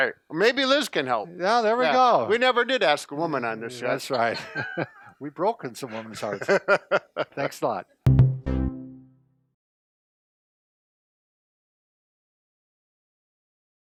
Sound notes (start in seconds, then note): 4.0 laughs